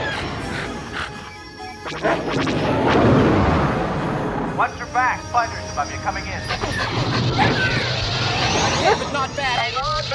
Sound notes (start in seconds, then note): 0.0 lasers firing; 0.0 panting; 0.5 beeping; 1.3 bark; 1.6 lasers firing; 2.1 explosion; 6.5 engines roaring; 6.9 lasers firing; 8.8 bark